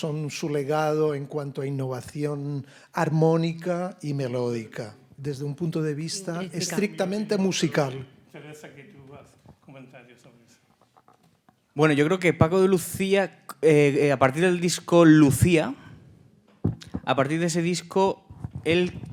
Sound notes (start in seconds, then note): 3.4 host speaking in Spanish; 8.7 speaking in Spanish